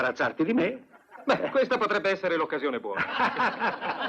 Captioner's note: all laugh